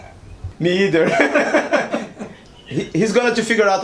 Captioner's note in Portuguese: risos